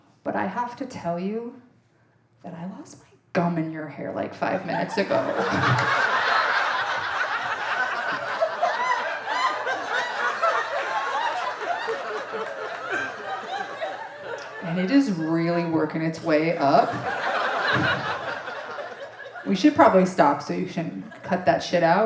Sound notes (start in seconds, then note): 6.5 audience laughing